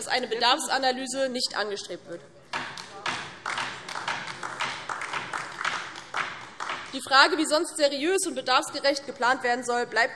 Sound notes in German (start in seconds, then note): 2.7 Beifall DIE LINKE